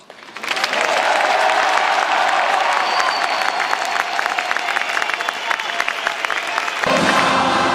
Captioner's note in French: Applaudissements